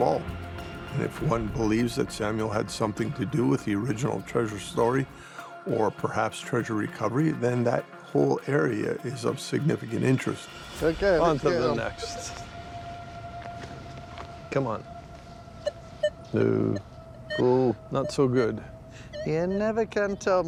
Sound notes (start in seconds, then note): 15.5 beeping